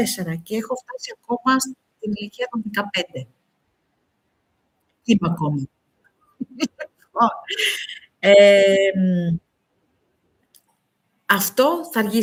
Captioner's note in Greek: γέλια